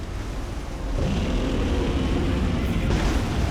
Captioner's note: gutteral roar